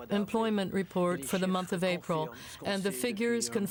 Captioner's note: speaking French